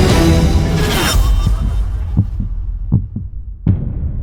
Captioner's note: heart beat; low drum